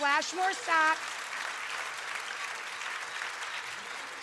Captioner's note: audience clapping